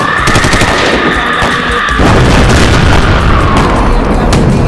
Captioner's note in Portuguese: Gritos